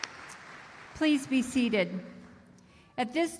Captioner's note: applause